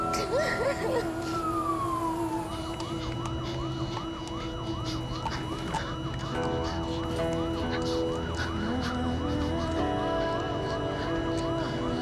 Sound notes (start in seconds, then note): 0.1 sobbing; 2.7 flatline; 4.6 panting